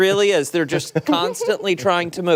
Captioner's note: laughter